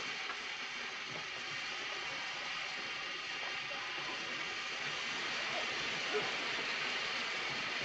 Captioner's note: train chugging